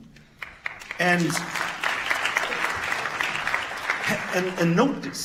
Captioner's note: audience claps